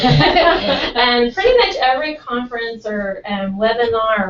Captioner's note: laugh